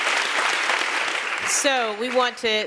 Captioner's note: applause